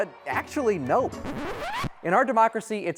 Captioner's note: record scratches